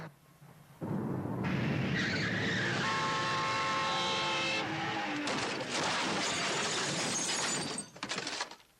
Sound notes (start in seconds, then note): 0.0 road rumbling; 1.5 tires screeching; 2.6 horn blowing; 5.7 truck crashing